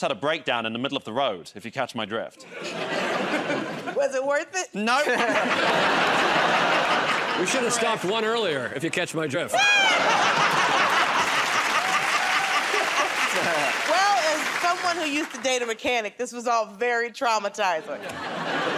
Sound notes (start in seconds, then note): 9.7 laughter; 12.7 applause